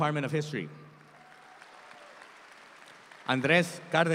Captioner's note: audience applauds